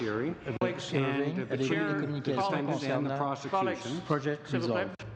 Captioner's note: speaking French